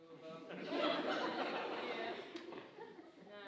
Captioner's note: audience laughing